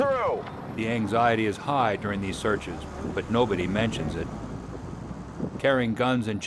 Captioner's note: voiceover